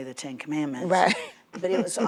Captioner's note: laughs